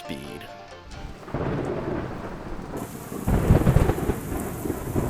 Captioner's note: thunder crashing